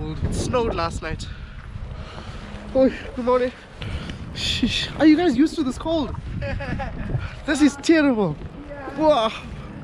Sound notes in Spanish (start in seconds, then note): 6.3 risas